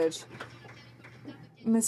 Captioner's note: some Applause